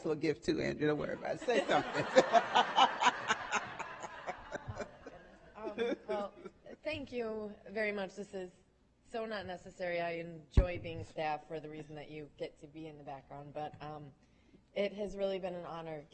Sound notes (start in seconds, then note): 4.1 laughing